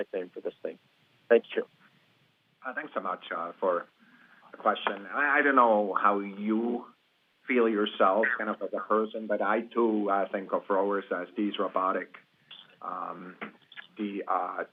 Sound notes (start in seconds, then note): 8.2 laughing